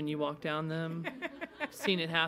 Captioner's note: attendees laughing